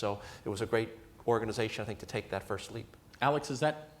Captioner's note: none